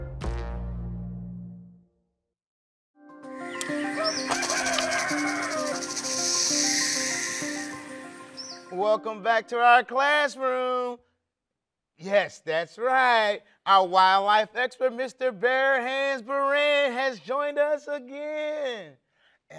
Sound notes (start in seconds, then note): 3.0 bright music; 3.7 rooster crowing